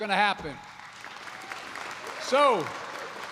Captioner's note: applause